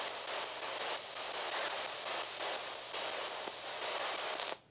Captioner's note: device hissing